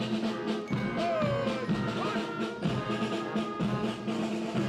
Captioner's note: Le commandant de troupe crie des ordres